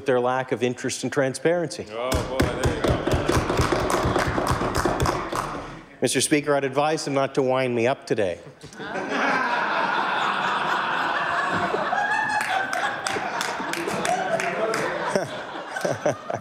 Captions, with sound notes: OF HUNDREDS OF THOUSANDS DON'T HAVE A DOCTOR. CAN WE TRUST THIS GOVERNMENT WITH THEIR LACK OF INTEREST AND TRANSPARENCY? [ APPLAUSE ] MR. SPEAKER, I ADVISED THEM NOT TO WIND ME UP TODAY.